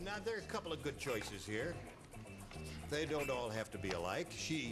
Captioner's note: none